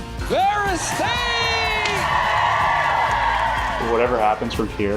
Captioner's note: cheering, applause